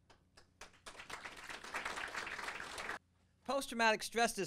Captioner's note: audience applauding